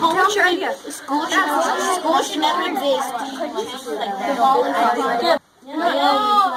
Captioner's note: students discuss